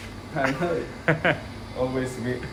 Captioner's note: chuckling